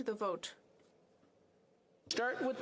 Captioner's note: speaking French